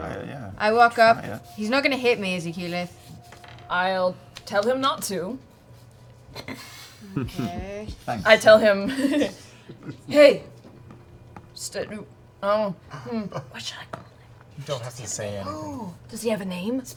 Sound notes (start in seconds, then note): 7.6 whispers